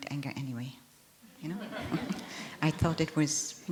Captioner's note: laughter